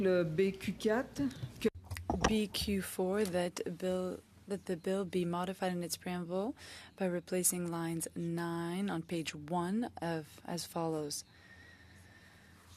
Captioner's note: speaking French